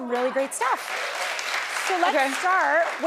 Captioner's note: audience clapping